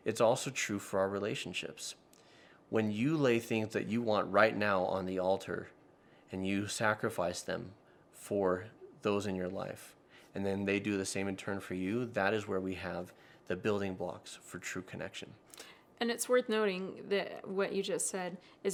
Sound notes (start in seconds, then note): none